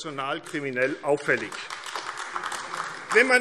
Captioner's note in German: Beifall AfD